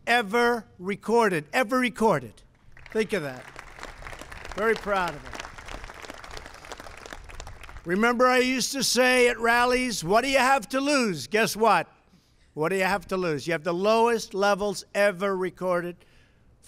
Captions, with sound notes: ever recorded. Ever recorded. Think of that. (Applause.) Very proud of that. Remember I used to say at rallies, "What do you have to lose?" Guess what? What do you have to lose? You have the lowest levels ever recorded